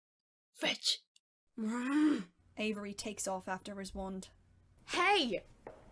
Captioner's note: Avery growls